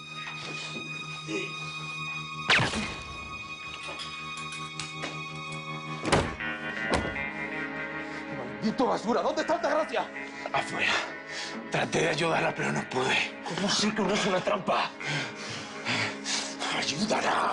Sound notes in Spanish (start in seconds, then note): 2.4 Disparo